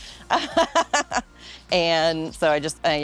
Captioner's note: laughing